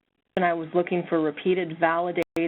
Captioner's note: voiceover